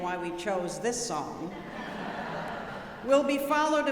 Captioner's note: audience laughing